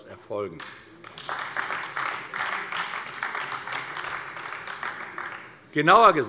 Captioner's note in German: Beifall AfD